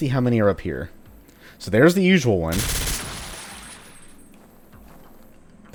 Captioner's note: Ingram spraying